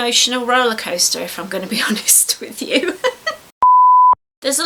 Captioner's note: laughs